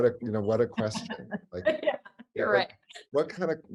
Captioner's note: laughs